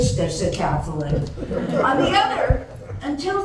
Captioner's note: laughter